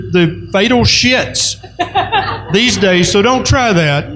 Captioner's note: laughter